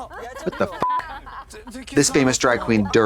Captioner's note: beep